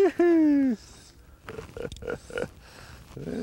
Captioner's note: laughter